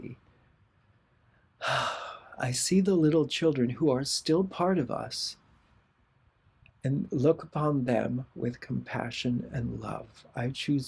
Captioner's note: sigh